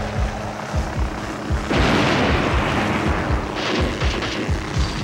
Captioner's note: explosions; gunfire